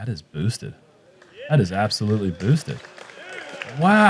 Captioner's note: cheering; applause